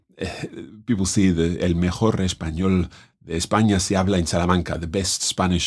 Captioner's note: speaking in Spanish